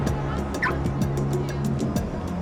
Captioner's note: car alarm chirping